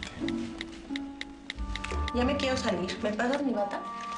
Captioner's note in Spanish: Tecleo